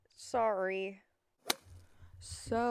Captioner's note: golf hit noise